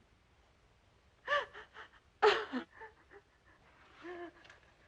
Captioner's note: Kelly crying